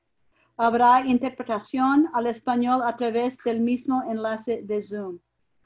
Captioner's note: speaking in foreign language